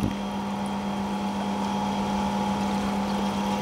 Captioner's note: machines whirr